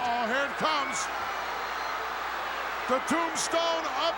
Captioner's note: crowd cheering